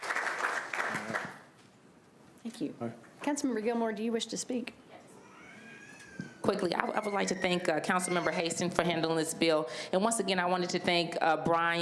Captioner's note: applause